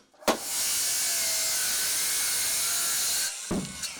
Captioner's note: saw grinding